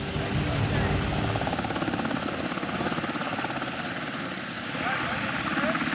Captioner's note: helicopter blades chopping